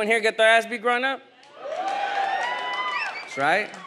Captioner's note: audience applauds and cheers